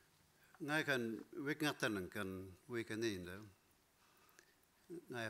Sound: speaking in foreign language

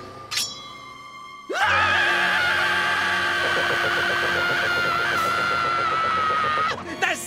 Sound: screaming

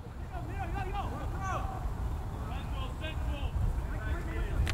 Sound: players talking and yelling

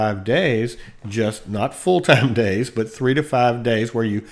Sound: chuckles

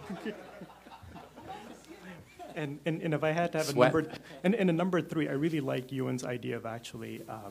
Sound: laughter

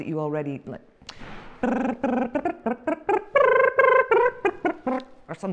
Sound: lip tremble sound to tune

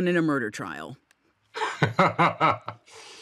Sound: tom laughs

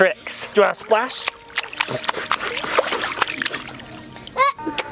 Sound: water splashing; baby talks

